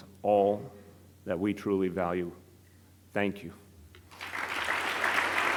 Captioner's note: applause